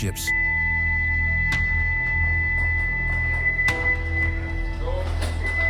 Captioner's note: siren blaring